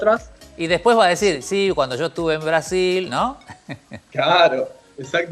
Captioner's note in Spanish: risas